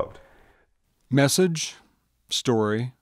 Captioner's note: voiceover